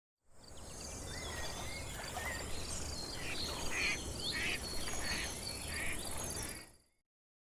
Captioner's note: ducks quacking, wildlife sounds